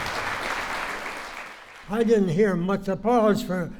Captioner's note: applause